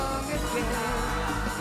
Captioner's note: yelling